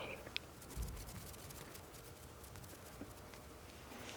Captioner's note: fingers fluttering